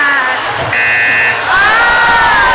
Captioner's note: buzzing